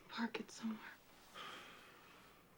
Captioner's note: sighs